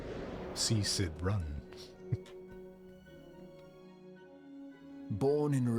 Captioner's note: chuckles